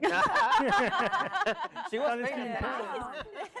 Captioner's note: all laugh